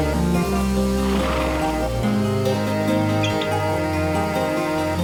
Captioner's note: horse snorts